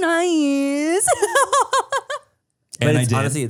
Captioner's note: laughs